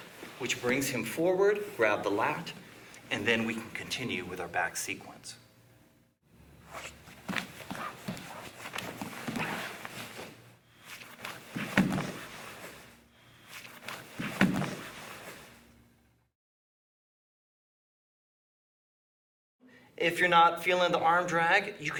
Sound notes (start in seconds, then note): 7.2 soft thudding